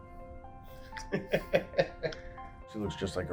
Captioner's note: laughs